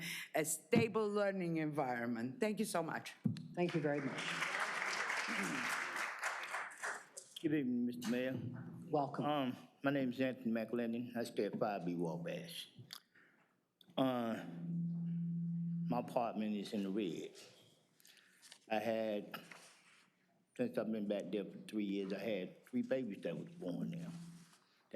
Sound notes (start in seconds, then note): 7.5 applause